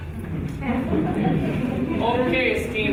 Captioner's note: audience giggling